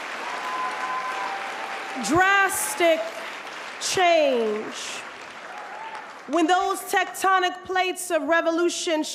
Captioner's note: applause